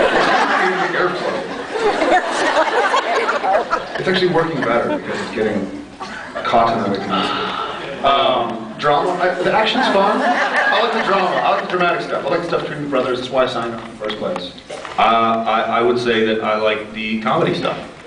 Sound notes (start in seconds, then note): 0.0 laughs; 7.0 sighs; 9.5 laughs